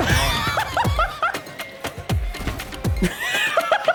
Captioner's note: laughing